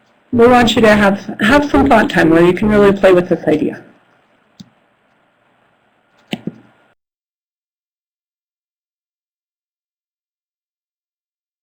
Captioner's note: break in audio